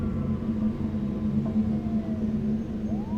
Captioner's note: siren wailing